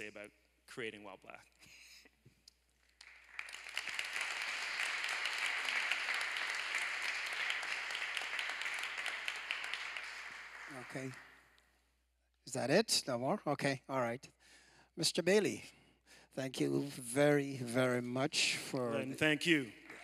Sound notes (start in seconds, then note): 7.5 applause